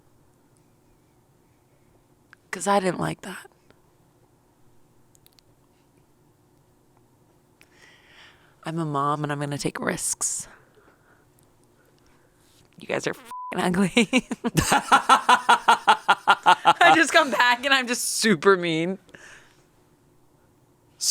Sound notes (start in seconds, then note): 13.1 beep; 14.0 laughs